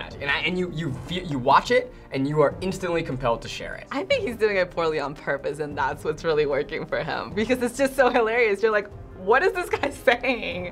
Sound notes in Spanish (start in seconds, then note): none